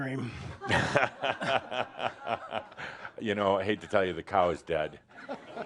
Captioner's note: laughter